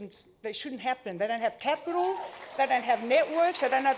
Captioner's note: cheering, applause